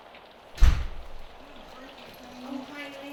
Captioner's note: knock at door